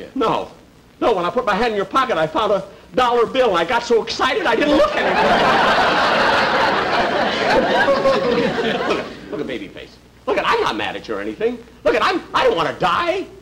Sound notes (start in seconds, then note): 4.6 audience Laughing